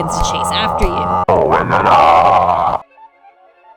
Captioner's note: static-y monster noises